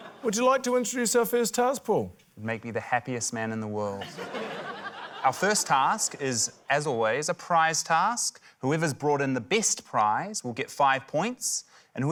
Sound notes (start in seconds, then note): 0.0 laughter; 4.0 laughter